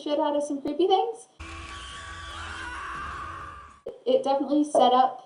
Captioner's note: sound effect: demons screeching